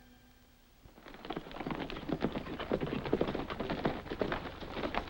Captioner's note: hooves clop